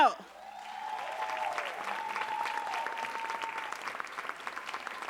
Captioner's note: audience cheering and applauding